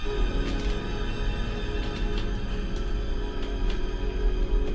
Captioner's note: floor creaking